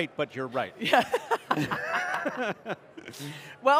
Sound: laughs

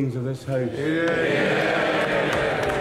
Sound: cheering

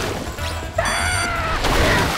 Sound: screaming

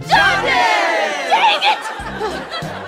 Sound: sighs

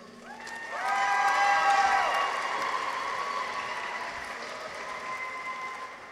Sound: audience applauds; people cheer

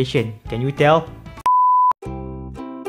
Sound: beep

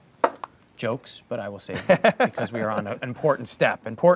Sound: laughing

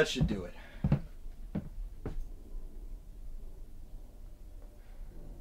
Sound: footsteps plodding

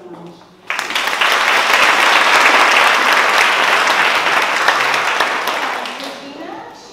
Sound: applause

